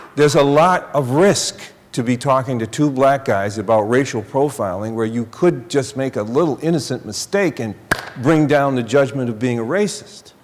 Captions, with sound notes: there's a lot of risk to be talking to two black guys about racial profiling where you could just make a little, innocent mistake [smacking hands], and bring down the judgement of being a racist.